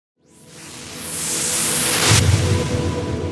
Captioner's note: whooshing